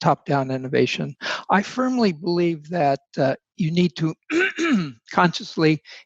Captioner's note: clears throat